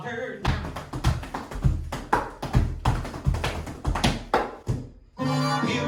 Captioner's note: tap dancing